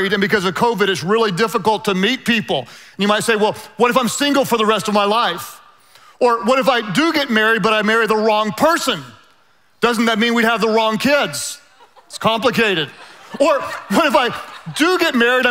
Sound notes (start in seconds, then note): 11.7 laughing quietly